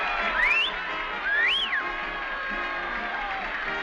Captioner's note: man whistles